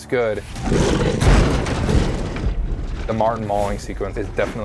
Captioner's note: tiger snarling